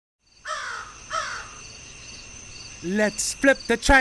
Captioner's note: insects chirping; bird caws